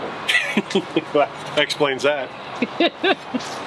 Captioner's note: laughs